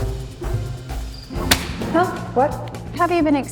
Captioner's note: clap